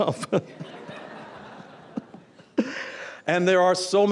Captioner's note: audience Chuckles